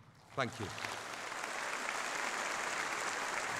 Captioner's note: applause